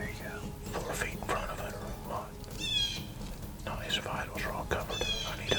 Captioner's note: whispering